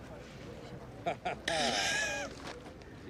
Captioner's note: Jason chuckles; coughs